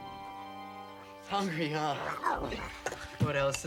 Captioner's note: Tasha babbles